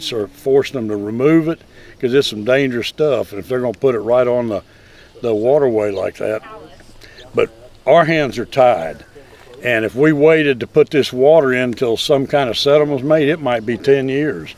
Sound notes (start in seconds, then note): 10.8 birds chirping